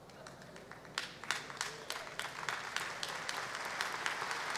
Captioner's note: audience applause